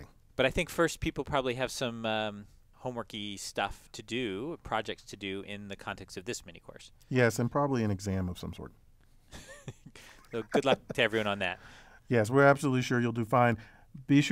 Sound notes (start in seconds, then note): 9.3 laugh